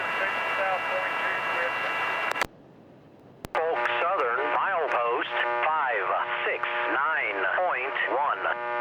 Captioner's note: plane engine roaring; man On Radio